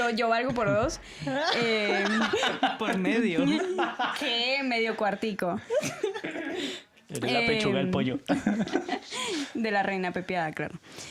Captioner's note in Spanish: risas